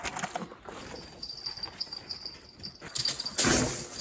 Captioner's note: the sound of a bell